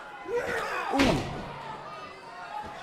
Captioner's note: crowd chatter